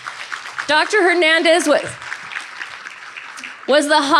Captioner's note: audience applauding